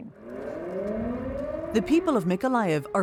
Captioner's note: siren wailing